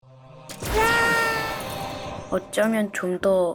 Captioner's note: Acryl Moon screams